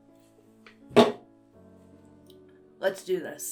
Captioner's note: can clatters onto desk